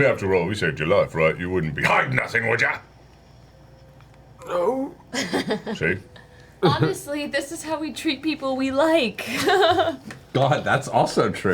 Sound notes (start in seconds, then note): 4.4 yells